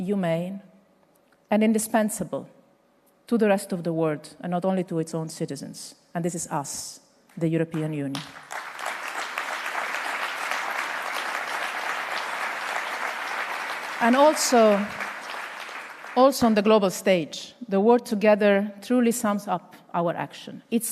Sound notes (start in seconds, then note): 11.0 applause